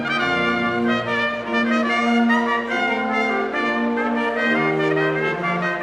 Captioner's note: none